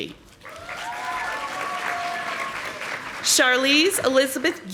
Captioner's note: audience applauding